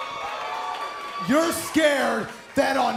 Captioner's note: cheers & applause